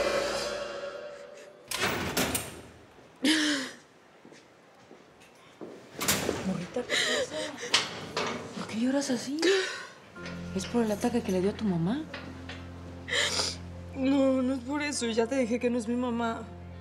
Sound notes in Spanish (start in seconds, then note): 1.0 Sonido de rejas al abrir; 6.8 Sollozos